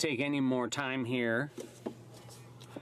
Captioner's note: speaking in french